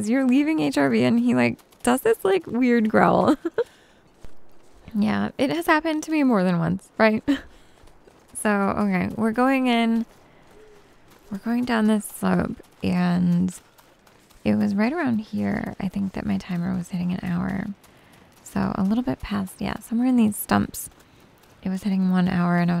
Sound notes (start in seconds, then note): 3.2 giggles